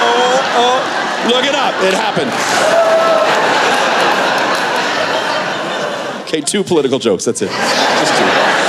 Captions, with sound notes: Oh, oh look it up, it happens. (Laughter) Okay, two political jokes, that's it, just two.